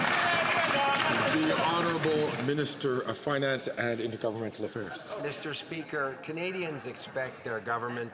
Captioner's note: some Applause